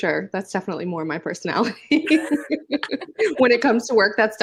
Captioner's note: laughs